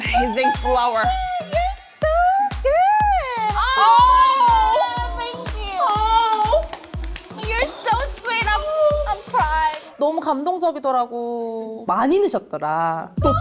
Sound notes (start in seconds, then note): 5.3 touched sound effect; 10.1 in Korean